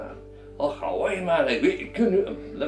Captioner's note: more 'Scottish' mumbling and nonsense